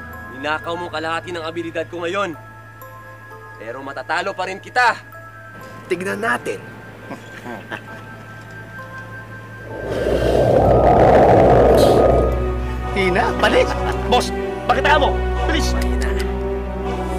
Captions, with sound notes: You stole half of my abilities today! But I can still beat you! We’ll see. [chuckles] [blows] Weak and tired. Boss! Show him! Hurry! Weak!